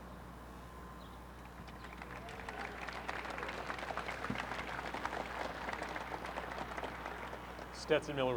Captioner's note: applause